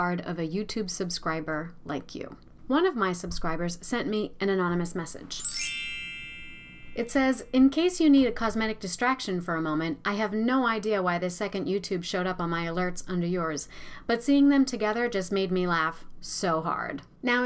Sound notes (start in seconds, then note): 5.4 bell rings